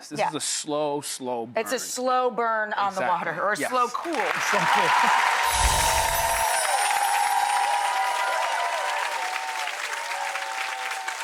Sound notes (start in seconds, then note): 5.5 text title sound effect; 6.7 audience applause